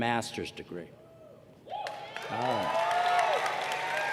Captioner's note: cheers and applause